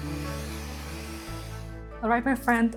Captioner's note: tool humming